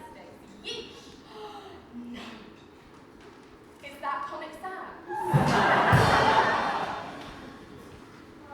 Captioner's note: gasps; crowd gasps, badumtsh from band; audience laughs